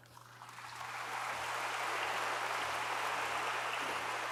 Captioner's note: audience applauds